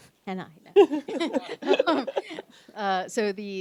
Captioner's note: laughs